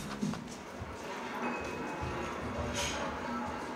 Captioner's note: restaurant sounds